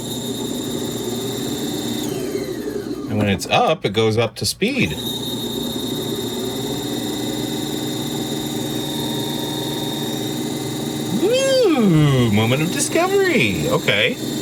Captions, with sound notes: (tape recorder whirring) And when it's up, it goes up to speed. (tape recorder whirring) Moment of discovery.